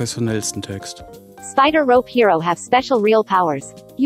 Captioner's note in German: Eine weibliche Computerstimme liest vor